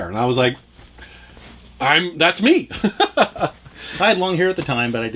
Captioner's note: laughs